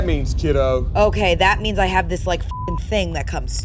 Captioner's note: beep